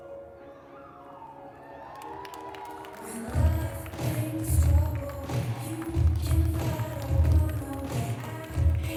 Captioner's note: applause